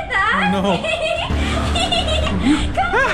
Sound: giggles

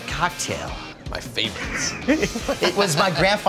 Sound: laughs

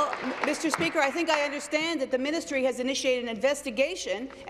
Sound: applause

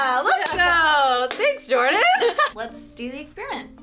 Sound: laughs

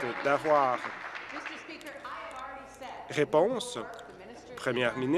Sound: applause

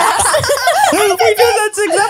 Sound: everyone laughs

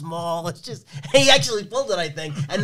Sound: laughs

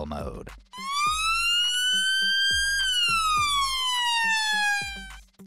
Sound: police siren wailing

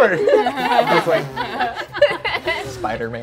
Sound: players laughing

